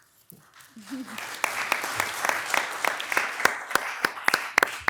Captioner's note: audience applauds